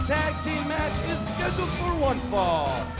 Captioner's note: bell ringing